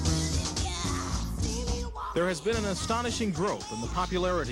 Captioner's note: man over TV